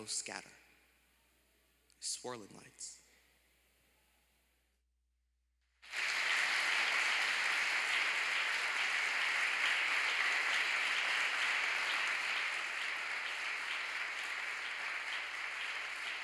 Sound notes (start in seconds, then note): 5.8 applause